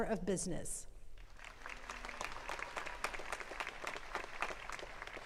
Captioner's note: attendees clapping